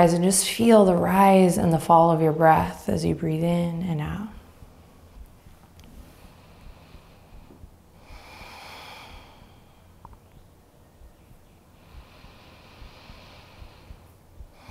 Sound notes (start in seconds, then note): 5.9 inhaling and exhaling deeply